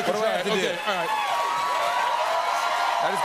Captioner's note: cheers and applause